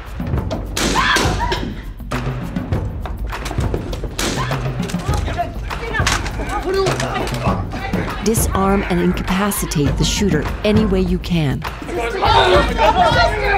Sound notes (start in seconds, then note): 0.7 gunshot; 0.9 screams; 11.6 yelling, struggling